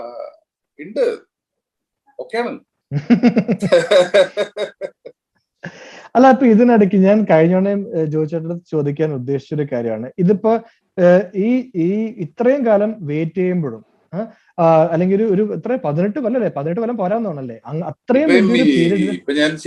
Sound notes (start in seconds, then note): 11.5 both laughs